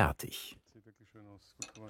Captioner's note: quiet conversations